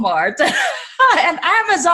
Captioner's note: laughs